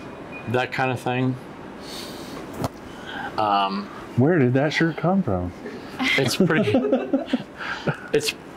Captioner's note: giggles